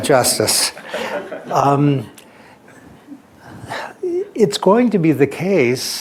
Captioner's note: laughter